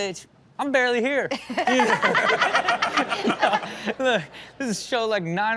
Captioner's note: everyone laughs